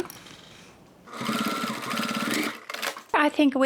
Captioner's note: sewing machine whirring